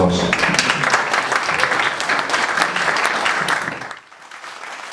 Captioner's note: all applaud